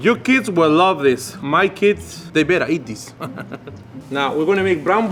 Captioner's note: laughs